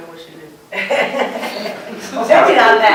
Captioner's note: laughter